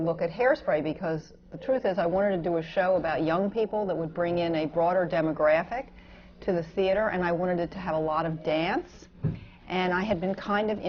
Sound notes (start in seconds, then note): none